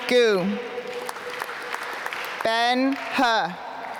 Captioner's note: applause